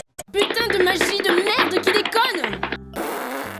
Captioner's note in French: Bruit de pas accélérés